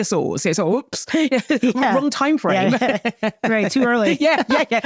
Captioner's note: laughing